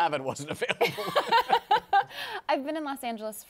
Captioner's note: laughs